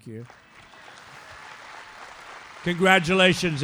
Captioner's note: applause